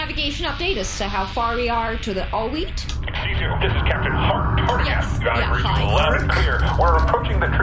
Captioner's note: over comms